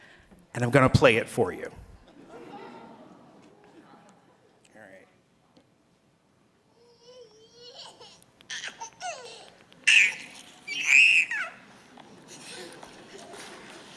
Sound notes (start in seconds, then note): 6.7 baby laughter